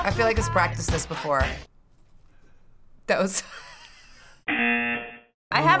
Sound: laughing; buzzer

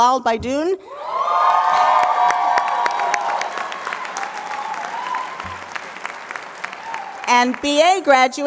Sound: applause

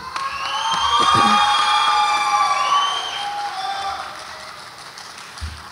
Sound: audience applauds and cheers

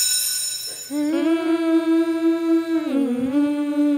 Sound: humming

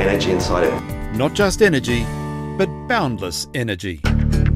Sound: voiceover

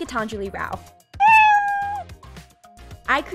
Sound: cat meow

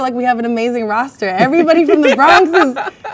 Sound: man laughs

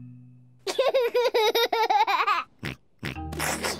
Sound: giggles

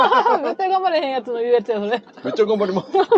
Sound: laughs

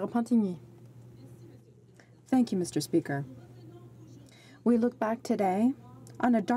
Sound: speaking French

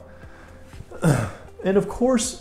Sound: clears throat

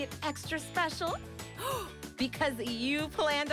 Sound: gasps

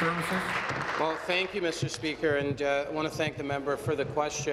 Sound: applause

